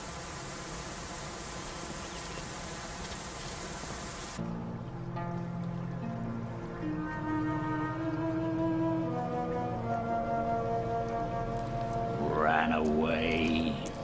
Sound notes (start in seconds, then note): 3.6 footsteps; 5.6 somber orchestral music